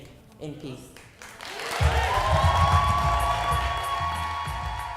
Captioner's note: cheers and applause